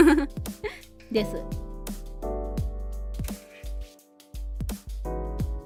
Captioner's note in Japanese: 笑い